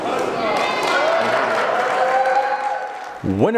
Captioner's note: crowd cheering